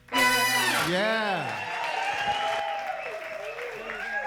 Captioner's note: audience cheers and applauds